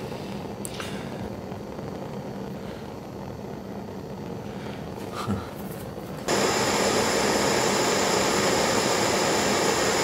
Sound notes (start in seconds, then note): 6.0 noise of gas burners